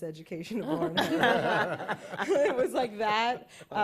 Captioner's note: laughter